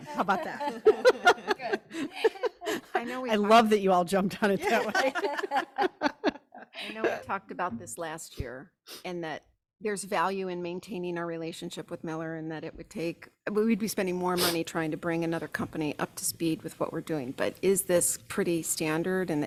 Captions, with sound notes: How about that? (group laughs) >>Good. I know we- >>I love that you all jumped on it that way. (laughs) (group laughs) >>I know we talked about this last year, and that there's value in maintaining our relationship with Miller and that it would take, we'd be spending more money trying to bring another company up to speed with what we're doing, but is this pretty standard?